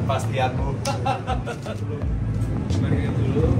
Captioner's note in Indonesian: tertawa